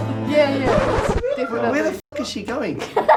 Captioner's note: record scratches